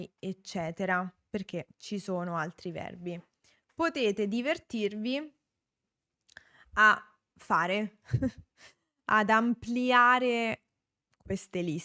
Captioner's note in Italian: risate